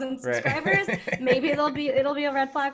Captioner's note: laughing